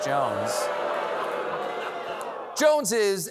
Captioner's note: audience reacts